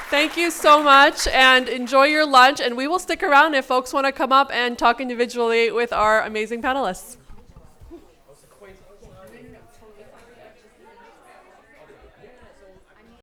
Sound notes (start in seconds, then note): 8.5 people chatting